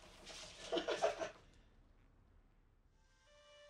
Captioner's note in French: des rires